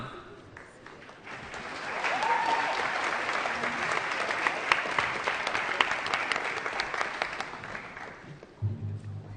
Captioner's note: applause